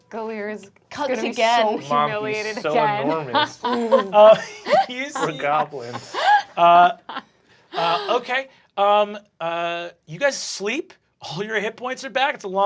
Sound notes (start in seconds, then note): 3.1 cast laughing